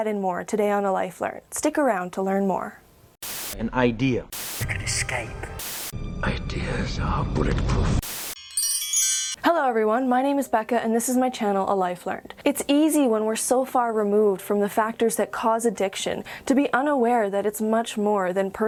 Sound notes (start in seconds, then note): 8.4 chimes